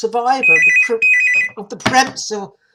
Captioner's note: phone rings